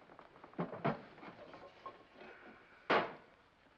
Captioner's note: tray sets down